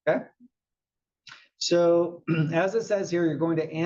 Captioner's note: cough